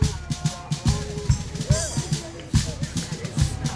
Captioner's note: chatter